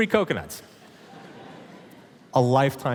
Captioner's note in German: Publikum lacht